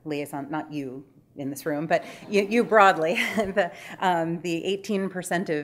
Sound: laughing

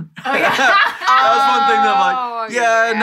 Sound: all laughing

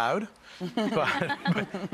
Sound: laughs softly

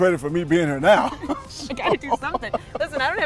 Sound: both laughing

